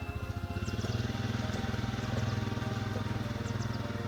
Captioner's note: quad engine roars